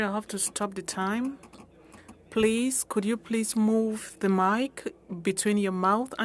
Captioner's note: speaking French